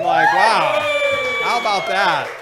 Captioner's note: cheering